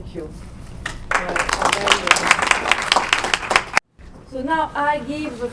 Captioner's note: crowd applauding